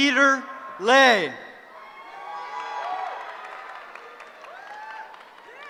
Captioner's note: cheering